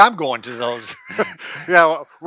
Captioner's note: both laughing